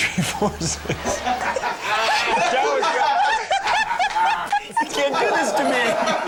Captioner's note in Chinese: 一直笑